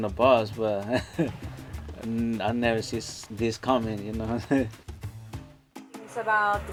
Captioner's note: laughs